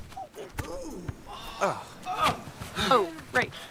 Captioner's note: sympathetic Groans